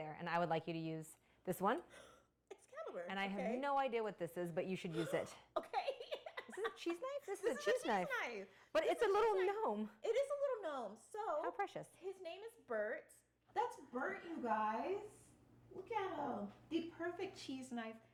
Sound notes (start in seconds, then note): 5.7 laughing